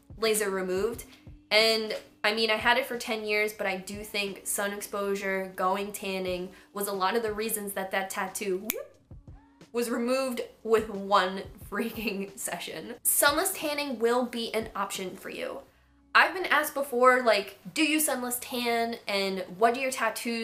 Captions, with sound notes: laser removed and, I mean, I had it for ten years but I do think sun exposure, going tanning, was a lot of the reasons that that tattoo *snap* was removed with one freaking session Sunless tanning will be an option for you I've been asked before, like, do you sunless tan and what do your tattoos -